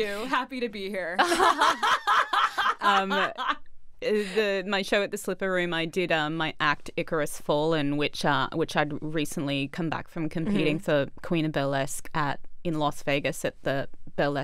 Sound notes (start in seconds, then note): 1.2 both laughing